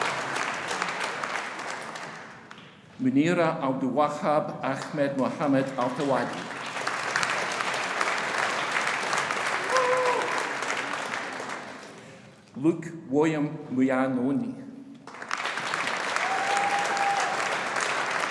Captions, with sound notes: Muneera Abdulwahab Ahmed Mohamed Althawadi. (AUDIENCE APPLAUDING) Luc William Mugnaioni. (AUDIENCE APPLAUDING)